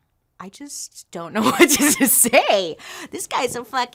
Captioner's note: laughs